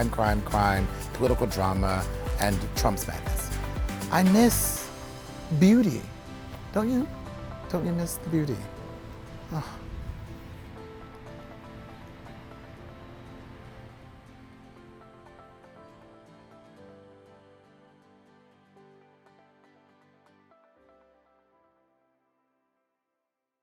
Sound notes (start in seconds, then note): 9.4 man sighs; 10.8 mellow music